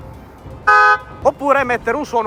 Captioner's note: Tesla horn